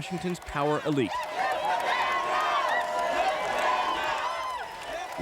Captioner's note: crowd chanting